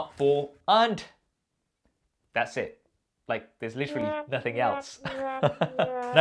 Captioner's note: laughs